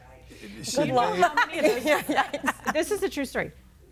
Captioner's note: speakers laughing and talking over each other